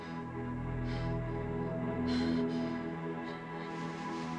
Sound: Brigit panting

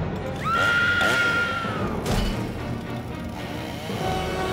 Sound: chain saw roaring

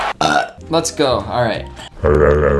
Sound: audience applauding; burping

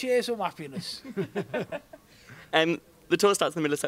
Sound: laughs

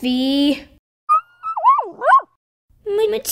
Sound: whimper

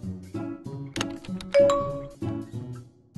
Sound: Messenger pings

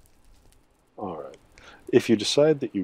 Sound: muttered

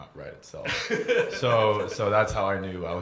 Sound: laughter

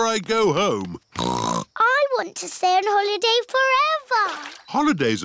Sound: snorts

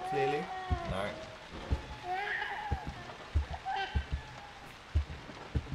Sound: baby crying

